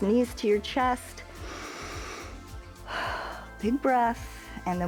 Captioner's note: inhales and exhales